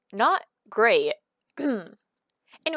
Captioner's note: clears throat